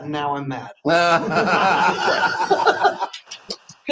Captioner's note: laughs